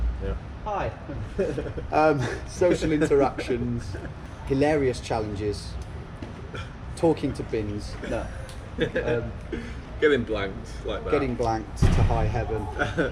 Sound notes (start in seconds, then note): 1.1 laughing; 8.0 laughs; 12.5 laughs